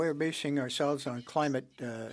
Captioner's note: speaking French